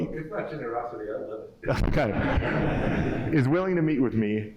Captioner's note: laughter